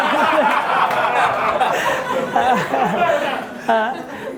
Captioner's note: audience laughing